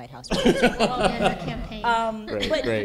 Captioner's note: laughter